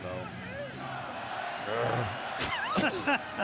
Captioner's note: crowd chanting "go packs go"; laughter